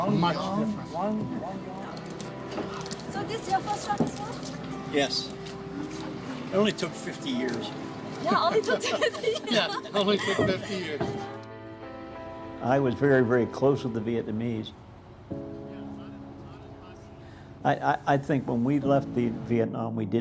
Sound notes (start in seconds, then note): 8.2 laughing